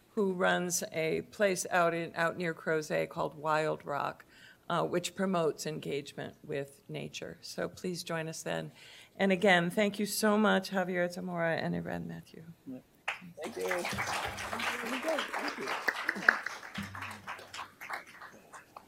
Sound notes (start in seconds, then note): 13.0 applause